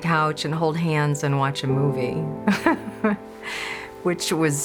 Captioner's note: laughs